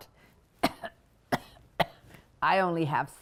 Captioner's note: fake coughing